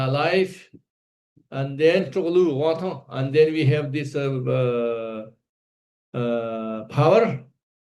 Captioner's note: tibetan